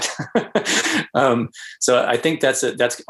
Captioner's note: laughs